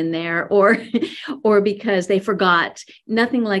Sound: laughs

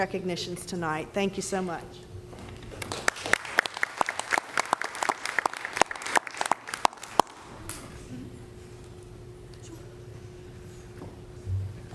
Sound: applause

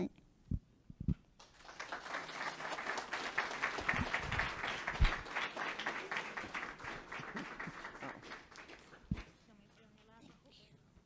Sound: public clapping

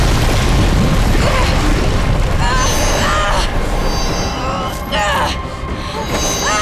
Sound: grunting

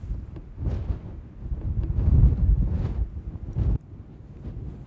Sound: wind blowing

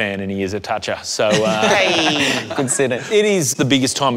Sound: laughs

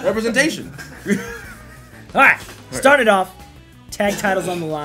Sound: laugh

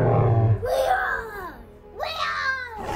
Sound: soft music; dinosaurs roars; Coleman roars

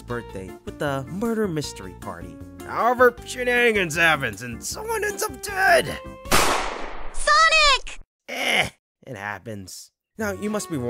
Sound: gunshot sound

